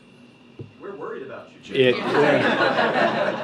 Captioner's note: laughter